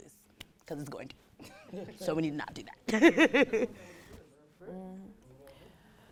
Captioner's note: laughs